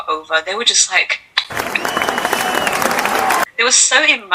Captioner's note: applause